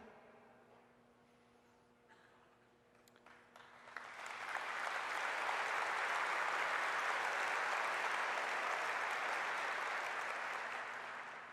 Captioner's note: applause